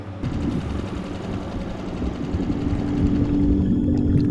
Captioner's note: water bubbling